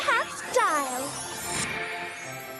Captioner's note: whirl! tinkle!